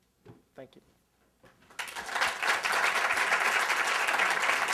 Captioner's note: applause